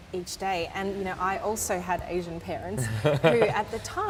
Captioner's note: laughs